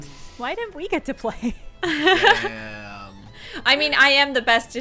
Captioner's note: laughs